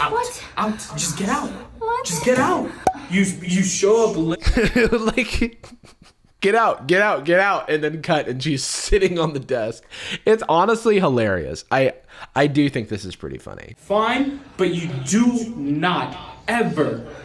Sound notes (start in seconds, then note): 5.1 laughs